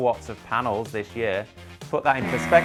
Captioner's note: buzzer ringing